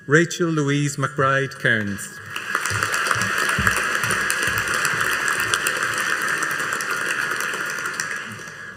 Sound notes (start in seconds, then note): 2.2 audience applauding